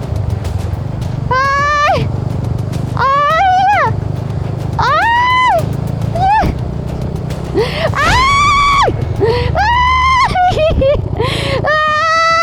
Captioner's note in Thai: ยอุทาน